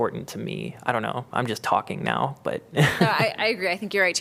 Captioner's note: laughter